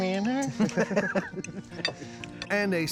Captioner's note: laughing